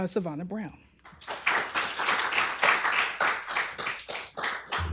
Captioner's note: applause